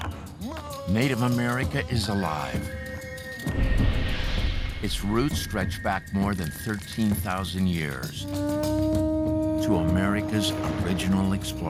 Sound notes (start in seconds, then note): 8.2 conch horn trumpets